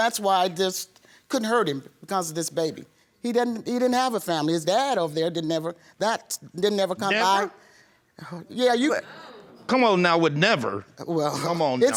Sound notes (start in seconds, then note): 7.2 audience gasps